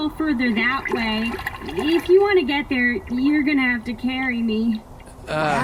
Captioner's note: splashing sounds